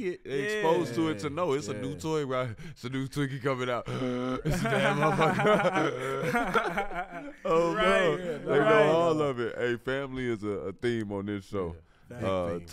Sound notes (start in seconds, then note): 3.9 gasps; 5.9 gasps